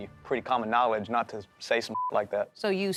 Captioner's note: beep